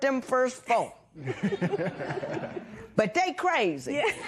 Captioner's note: laughter